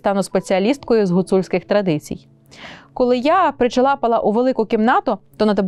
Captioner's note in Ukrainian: сопіння